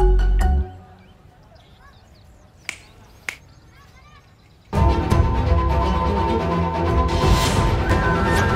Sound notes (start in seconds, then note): 2.6 snapping; 4.7 background Music